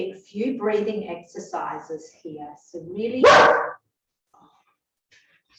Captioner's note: bark